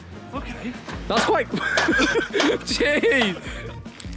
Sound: laughs

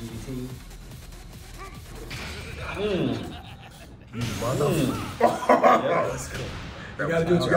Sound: laugh

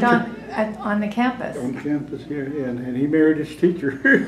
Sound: laughs

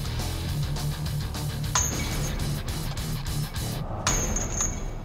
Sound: clanking

